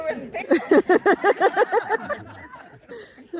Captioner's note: laughter